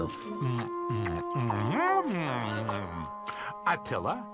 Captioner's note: chomping